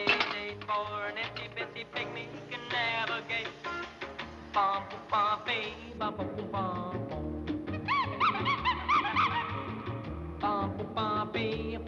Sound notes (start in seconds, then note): 4.1 humming